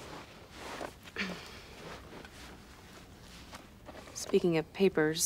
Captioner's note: coughs